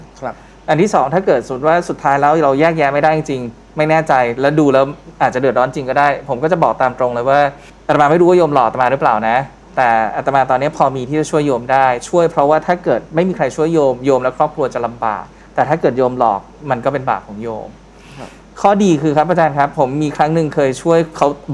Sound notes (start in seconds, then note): none